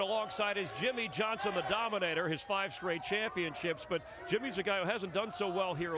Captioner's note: cheers and applause